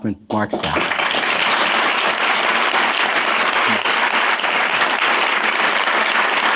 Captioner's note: applause